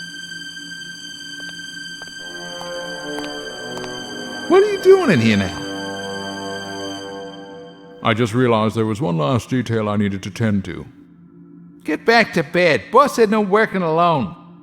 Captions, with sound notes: [footsteps] What are you doing in here now? I just realized that there was one last detail I needed to tend to. Get back to bed. Boss said no working alone.